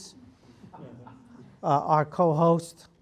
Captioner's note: laugh